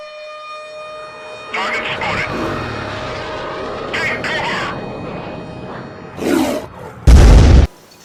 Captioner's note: growl